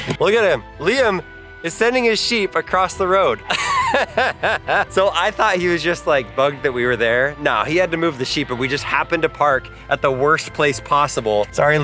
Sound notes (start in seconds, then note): 3.4 laughs